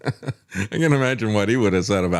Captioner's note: laughs